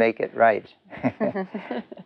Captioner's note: chuckles